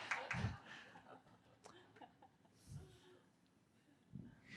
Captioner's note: group laughing